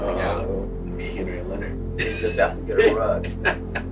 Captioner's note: laughs